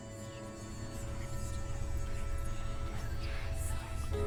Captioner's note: eerie whispering